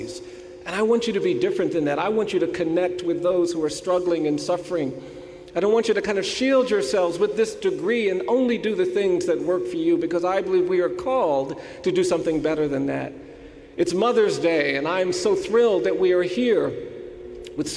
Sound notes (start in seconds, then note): none